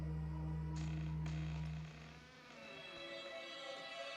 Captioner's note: creaking